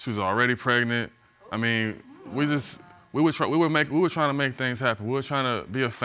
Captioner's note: stammering